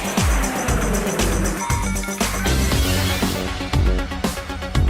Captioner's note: car engine revving